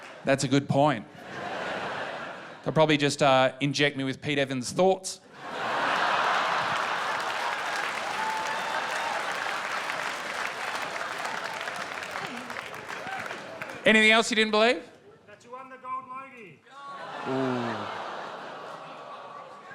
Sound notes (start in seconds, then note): 5.4 laughter and applause